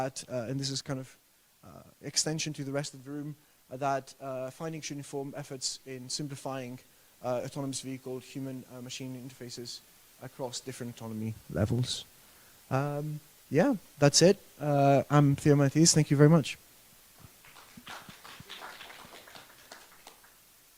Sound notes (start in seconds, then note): 17.2 applause